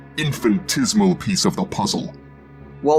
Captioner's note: none